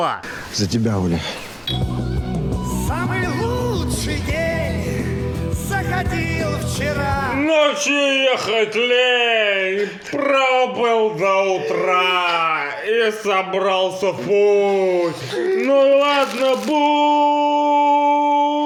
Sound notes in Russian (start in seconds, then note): 2.8 дзынь; 11.6 BAD плачет